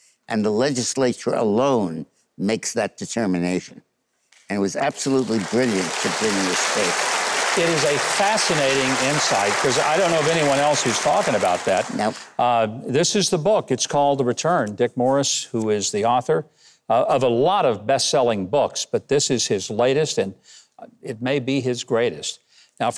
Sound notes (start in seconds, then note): 7.5 audience clapping